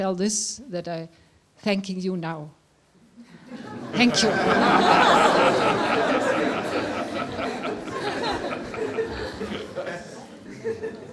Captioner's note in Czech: smích